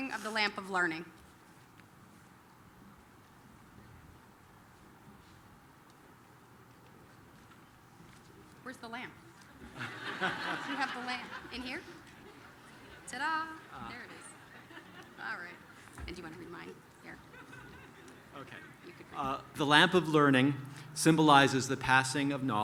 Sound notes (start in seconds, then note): 9.6 laughter